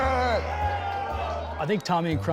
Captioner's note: cheering